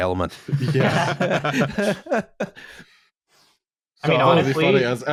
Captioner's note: laughter